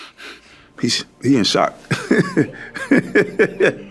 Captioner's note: laughs